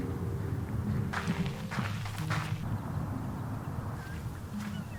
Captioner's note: footsteps crunching